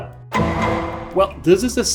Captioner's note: gavel bangs